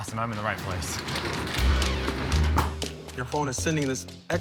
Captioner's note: door rolls shut